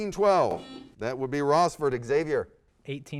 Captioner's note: buzzer sounds